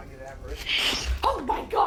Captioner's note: spirit box voice